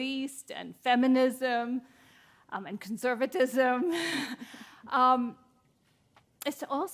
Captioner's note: chuckles